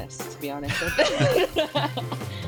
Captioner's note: both laugh